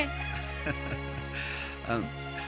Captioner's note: chuckling